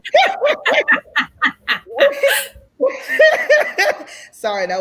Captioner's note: laughs loudly